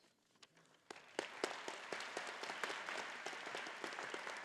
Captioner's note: all applauding